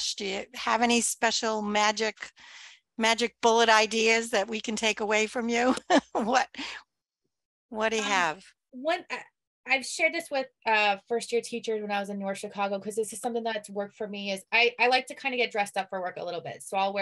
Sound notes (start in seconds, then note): 5.9 laughs